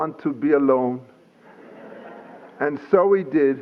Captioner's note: laughter